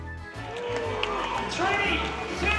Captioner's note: cheers and applause